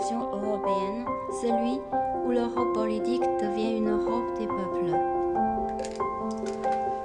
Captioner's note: French